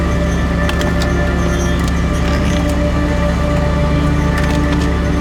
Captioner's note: engine rumbling